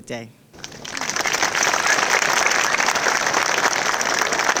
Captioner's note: audience applauding